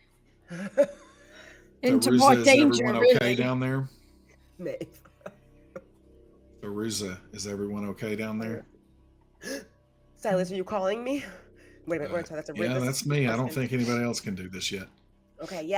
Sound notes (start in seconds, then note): 5.4 laughs; 9.7 gasps